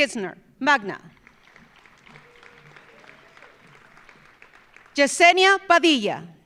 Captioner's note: audience applauding